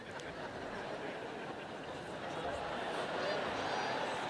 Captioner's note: laughter